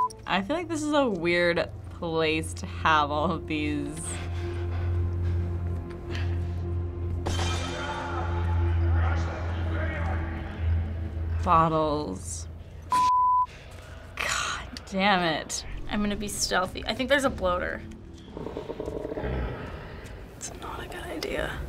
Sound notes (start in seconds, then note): 7.1 distant screams; 7.2 bottle shatters; 18.2 faint growling; 19.9 hushed tone